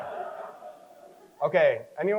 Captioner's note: crowd chuckles